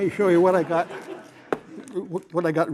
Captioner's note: laughter